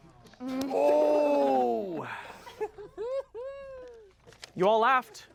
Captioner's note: everyone laughs and groans